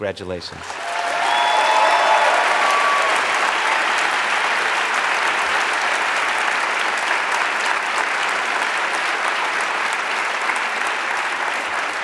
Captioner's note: applause